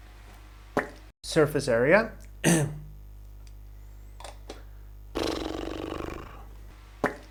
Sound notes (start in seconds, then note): 5.1 blows raspberry